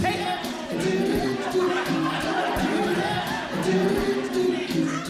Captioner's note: audience Laughing